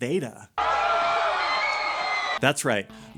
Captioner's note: cheering